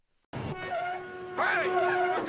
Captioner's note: car horn beeping